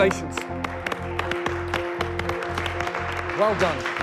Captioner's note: applause